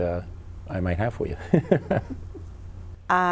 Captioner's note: laughs